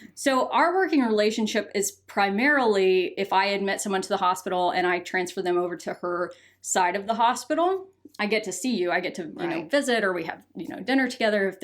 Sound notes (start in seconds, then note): none